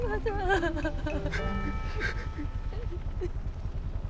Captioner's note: weeping